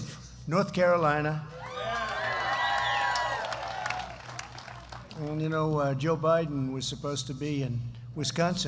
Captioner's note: applause